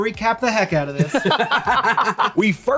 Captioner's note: laugh